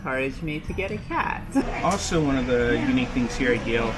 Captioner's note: people chattering